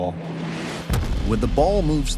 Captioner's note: round whooshes